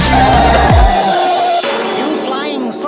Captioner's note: bang!